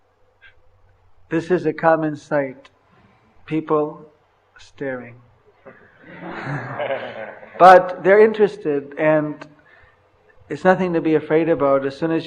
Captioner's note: laughter